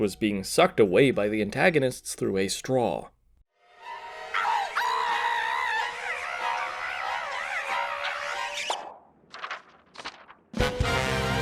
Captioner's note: Toad screaming, "Psycho" strings